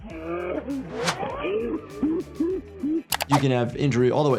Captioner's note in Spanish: el portador de la cámara se ríe